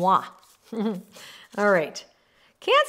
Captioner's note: chuckles